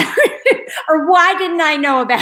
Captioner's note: laughs